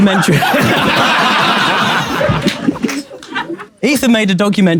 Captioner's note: people in room laughing